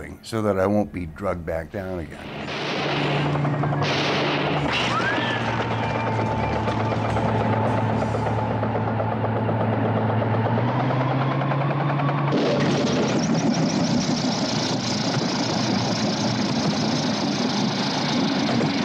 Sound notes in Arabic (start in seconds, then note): 3.8 طلقات نارية; 3.8 هدير محرك المروحية